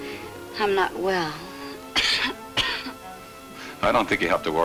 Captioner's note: coughs